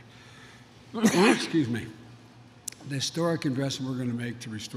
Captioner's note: coughs